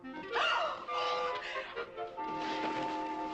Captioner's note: gasps